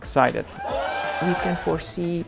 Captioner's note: cheers